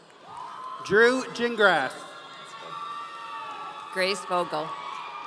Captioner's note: audience cheering